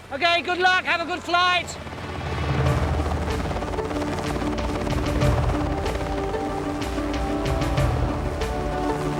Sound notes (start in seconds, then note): 2.3 helicopter chopping; 2.6 lively music